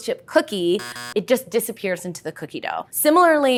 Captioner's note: buzzer sounds